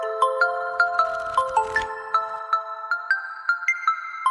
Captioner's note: ruffling papers